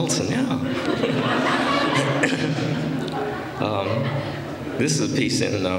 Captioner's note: laughter